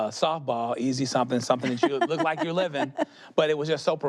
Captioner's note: she laughs